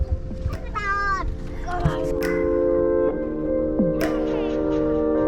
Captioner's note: babbling